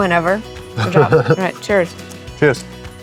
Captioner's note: chuckles